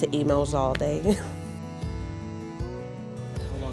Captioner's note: chuckle